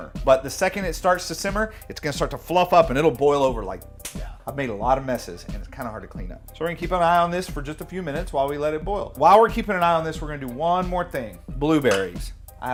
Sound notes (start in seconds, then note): 4.0 snap